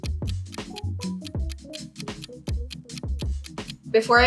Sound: clock ticking

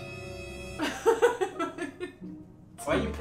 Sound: suspenseful music; laughing

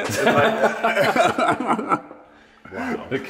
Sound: laughter

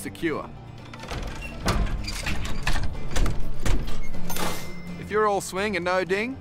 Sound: mechanical clanking

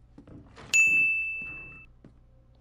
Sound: more spooky footsteps

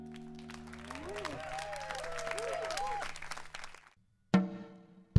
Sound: applause

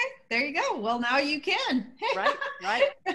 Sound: laughter

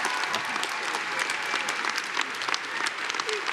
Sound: applause; cheering; applause

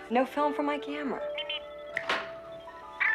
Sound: Steve Trevor snaps his Fingers

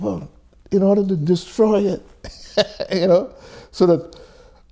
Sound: chuckles

